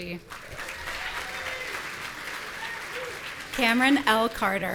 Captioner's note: audience cheering